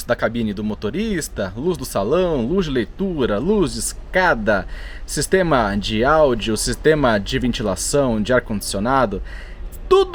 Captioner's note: air conditioning